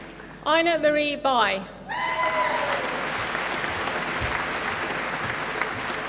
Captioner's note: applause